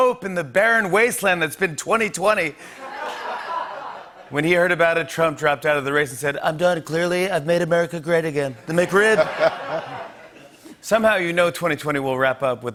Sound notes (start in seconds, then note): 2.7 laughter; 8.6 laughter